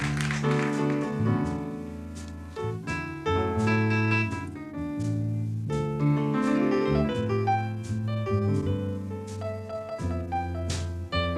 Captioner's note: applause